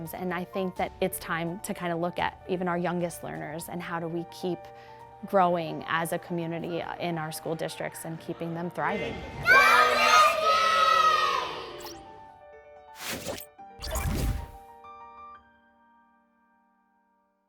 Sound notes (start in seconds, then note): 11.9 digital Woosh; 11.9 music fades